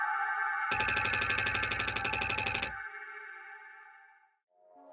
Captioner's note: typewriter clacking